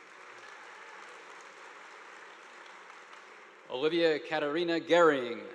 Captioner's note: audience applauding